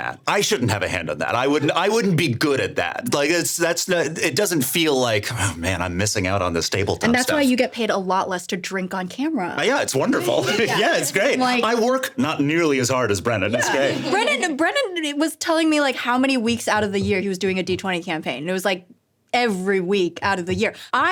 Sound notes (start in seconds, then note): 10.0 laughing